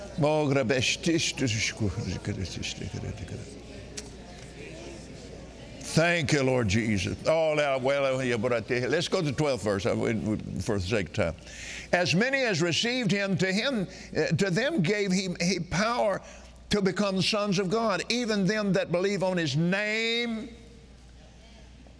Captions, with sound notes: (Kenneth speaking in tongues) Thank you, Lord Jesus. (Kenneth speaking in tongues) Let's go to the 12th verse, for the sake of time. "As many as received him to them gave power to become sons of God. Even them that believe on his name."